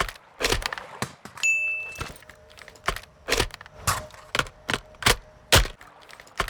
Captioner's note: stone floor